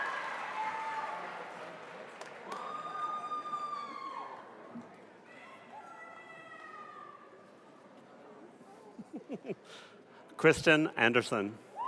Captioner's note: applause